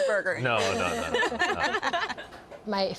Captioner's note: all laugh